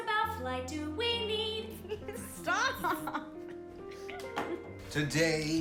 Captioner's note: chuckles